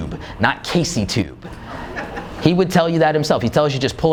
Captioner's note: laughing